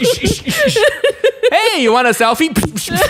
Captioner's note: laughs